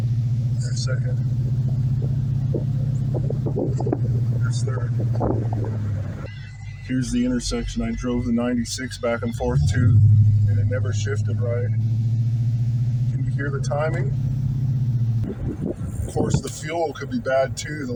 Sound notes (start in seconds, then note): 0.0 transmission downshift; 1.1 exhaust rumbling